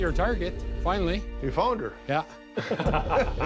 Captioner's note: chuckles